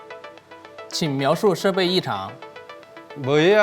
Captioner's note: Mandarin